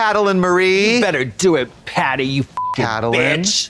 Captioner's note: beep